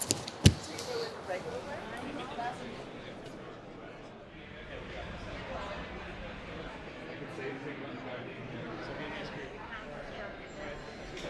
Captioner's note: indistinct chatter